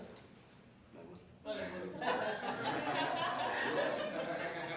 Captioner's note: laughing